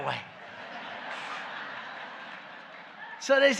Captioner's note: laughter